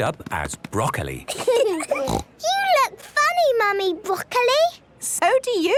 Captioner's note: laughing, snort